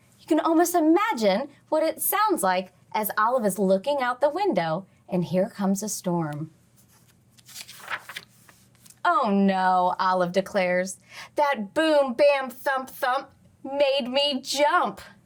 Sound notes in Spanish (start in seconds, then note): 6.7 crujido de página